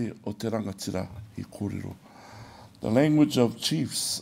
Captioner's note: speaks in Maori